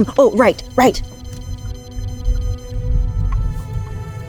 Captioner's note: bat detector sounds increasing